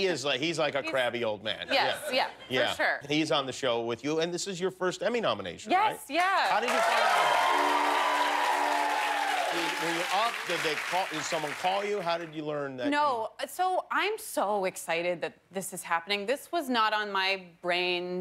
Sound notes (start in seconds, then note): 10.8 cheers and applause